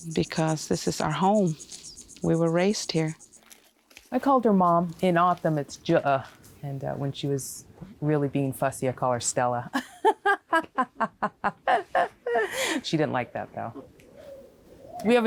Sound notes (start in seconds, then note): 5.8 speaks foreign; 9.8 laughs